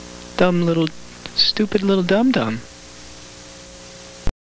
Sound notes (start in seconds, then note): 2.8 constant static buzz